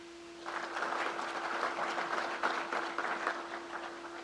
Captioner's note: crowd applauds